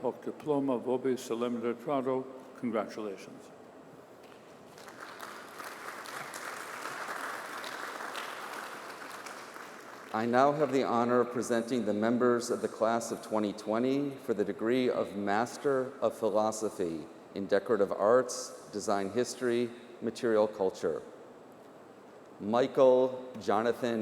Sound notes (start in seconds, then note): 9.1 applause